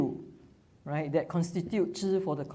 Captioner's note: speaks in foreign language